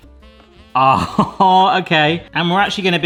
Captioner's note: laughs